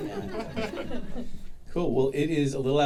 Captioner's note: audience chuckling